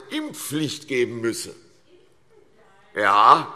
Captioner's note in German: Zurufe SPD